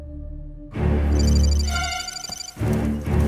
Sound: typing sound

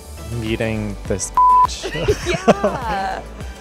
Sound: beep

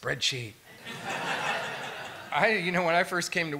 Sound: laughter

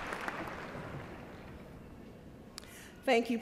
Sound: applause

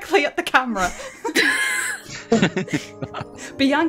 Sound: chuckles

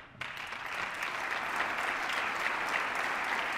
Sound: applause

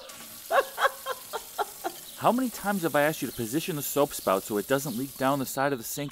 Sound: kitchen faucet turns on; laughs

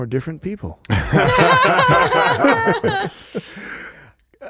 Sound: everyone laughing

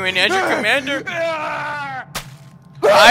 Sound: yell of determination

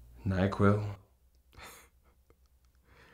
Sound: Mr. Edward laugh

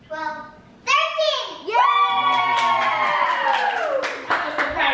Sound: kids cheering

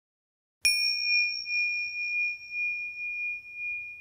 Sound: bell dinging

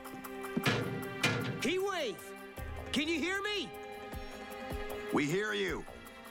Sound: groans; metal bangs

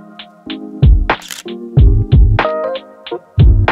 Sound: camera shutter clicks

